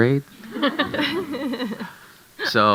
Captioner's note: audience chuckling